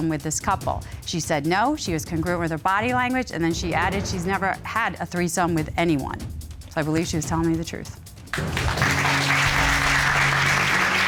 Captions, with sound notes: with this couple?" She said no. She was congruent with her body language. And then she added she's never had a threesome with anyone. I believe she was telling me the truth. [applause]